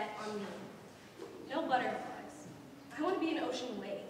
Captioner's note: none